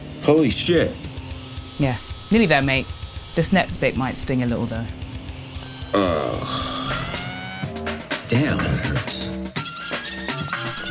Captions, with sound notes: Holy shit! - Yeah, nearly there mate. This next bit might sting a little though. [moans] Damn that hurts.